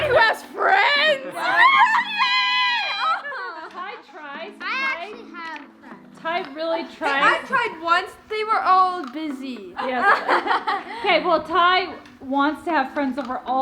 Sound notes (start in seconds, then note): 1.5 both squealing